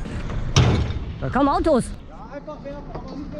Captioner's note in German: kraaach